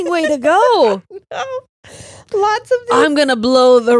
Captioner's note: laughs